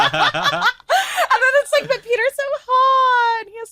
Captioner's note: group laughing